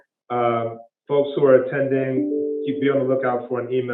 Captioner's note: computer dinging